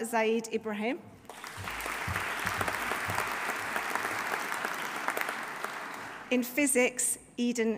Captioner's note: audience applauding; audience cheering